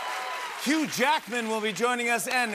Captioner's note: cheers and applause